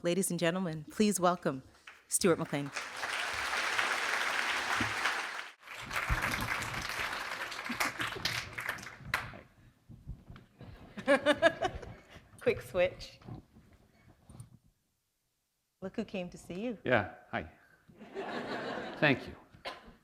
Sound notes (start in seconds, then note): 4.2 applause; 5.9 laughter; 18.0 laughter